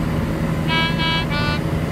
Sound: doot Doot Doot

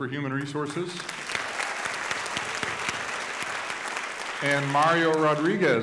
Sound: audience applauding

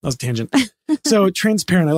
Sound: laughing

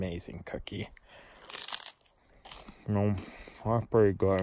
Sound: crunch crunch

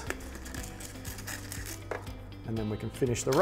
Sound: scissors cutting

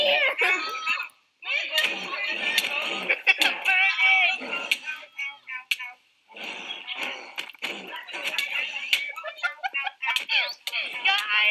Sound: punching

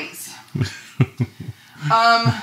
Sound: laughing

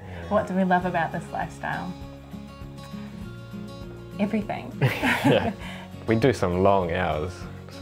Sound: laughs

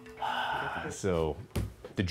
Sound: sigh

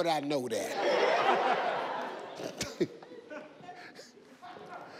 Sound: audience laughing

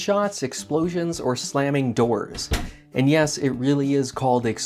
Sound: door shuts

